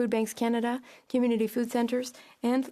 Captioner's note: speaking French